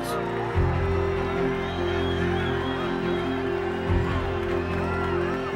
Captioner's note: crowd cheering